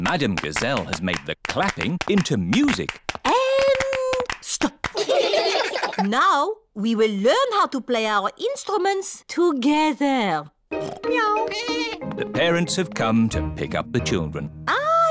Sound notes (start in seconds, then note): 4.9 all giggling; 11.0 snorts; 11.4 meows; 11.4 bleats